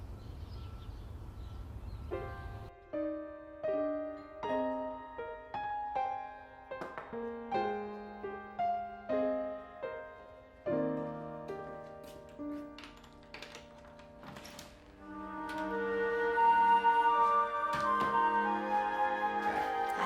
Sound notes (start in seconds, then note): 2.3 soft piano music; 7.3 knocking on door; 14.8 soft orchestral music